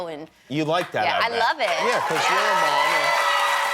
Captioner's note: applause